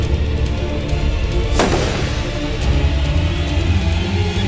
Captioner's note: gun firing